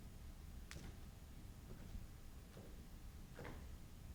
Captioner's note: footsteps stomping